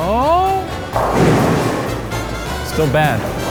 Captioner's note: pins clattering